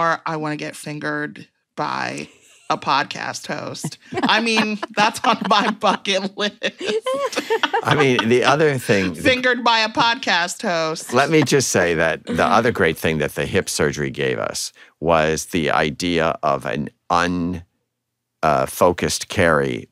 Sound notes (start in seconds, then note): 3.8 laughter